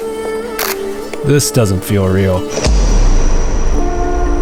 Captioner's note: camera clicking; voiceover